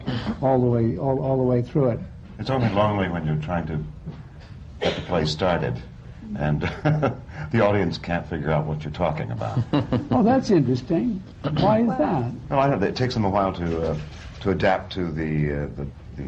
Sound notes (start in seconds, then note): 6.6 laughs